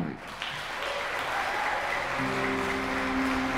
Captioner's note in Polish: oklaski